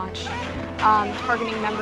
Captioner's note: gunshots blasting